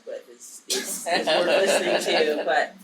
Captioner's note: audience laughing